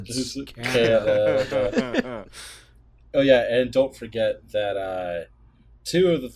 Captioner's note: laughter